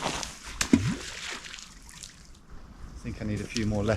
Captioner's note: water sploshes